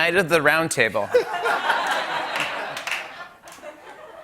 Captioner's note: laughter